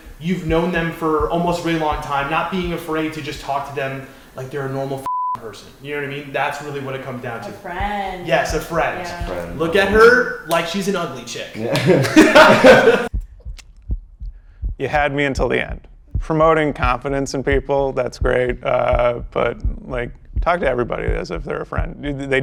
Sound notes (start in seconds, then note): 5.0 beep; 11.6 laughing